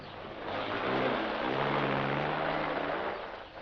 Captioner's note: truck revving